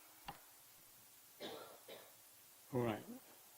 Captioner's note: coughing